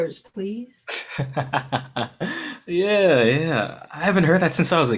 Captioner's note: laughing